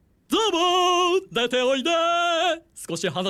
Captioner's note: sing-song